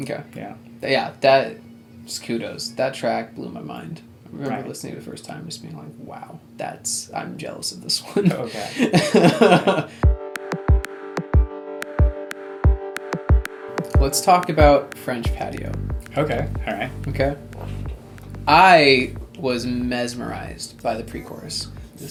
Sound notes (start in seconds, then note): 10.4 laughs